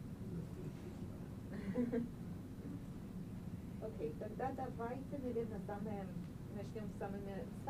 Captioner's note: laughing